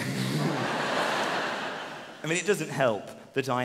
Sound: laughing

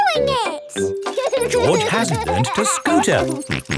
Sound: george laughing

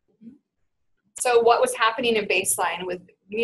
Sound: voiceover

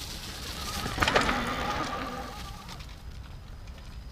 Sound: wheels spinning

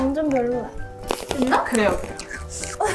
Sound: upset

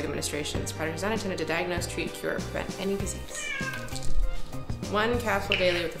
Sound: cat miaows

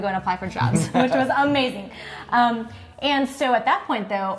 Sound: laughing

